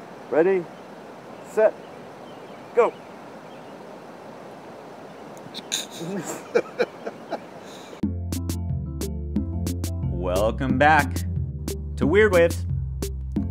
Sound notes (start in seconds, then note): 5.6 laughs; 8.0 mellow music